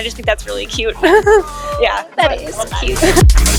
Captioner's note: laughs